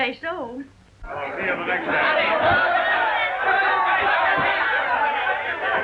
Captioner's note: loud chatter